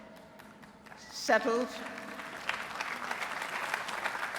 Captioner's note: applause